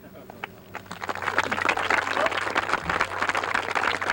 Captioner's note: audience applauds